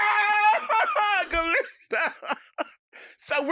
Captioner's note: laughing